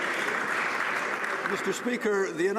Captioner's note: applause